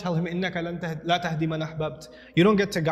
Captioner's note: Arabic